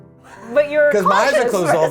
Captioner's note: crew laughs